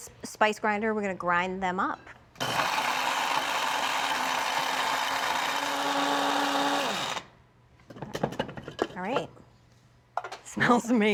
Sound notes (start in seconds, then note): 2.4 whirring; 6.4 whirring stops; 9.5 laughs